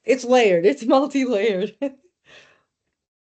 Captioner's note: chuckling